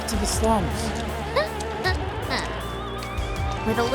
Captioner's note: laughs